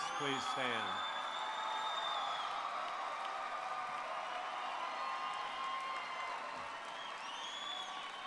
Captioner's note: cheers and Applause